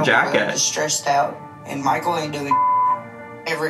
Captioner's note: beep